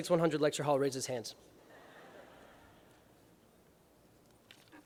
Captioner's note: laughter